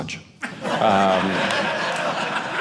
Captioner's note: audience laughing